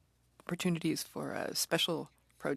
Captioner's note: speaking French